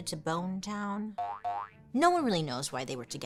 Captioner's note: spring boings